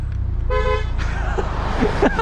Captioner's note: Xsara honks